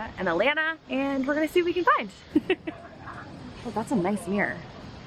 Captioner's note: laughs